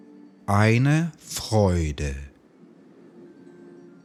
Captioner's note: german